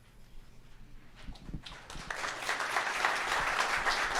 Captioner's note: applause